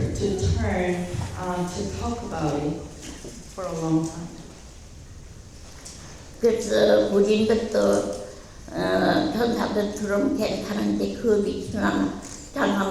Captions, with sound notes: to turn to talk about it for a long time. (speaking in foreign language)